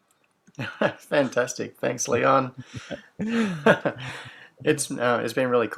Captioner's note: laughs